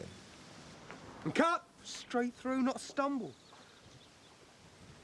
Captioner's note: none